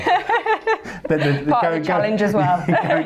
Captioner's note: laughs